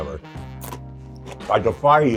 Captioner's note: Twiglet crunches